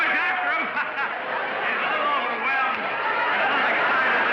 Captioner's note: laughs